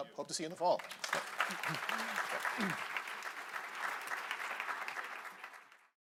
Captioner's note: applause